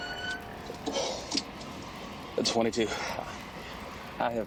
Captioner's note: officer panting